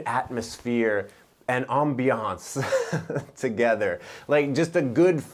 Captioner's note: giggles